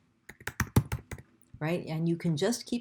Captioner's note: sound of typing